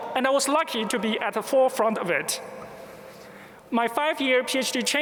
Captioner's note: none